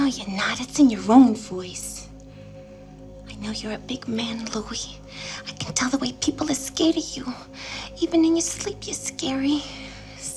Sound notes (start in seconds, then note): none